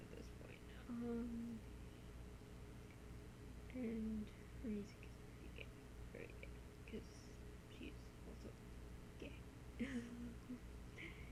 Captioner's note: laughs